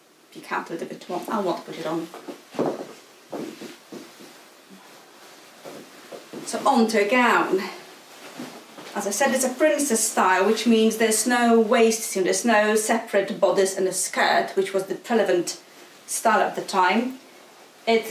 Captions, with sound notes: If you can't put a bit on, I won't put it on. (heels clacking) (clothes rustling) So onto a gown, as I said it's a princess style which means there's no waist seam, no separate bodice and the skirt which was the prevalent style of the time.